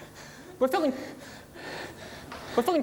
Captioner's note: breathing heavily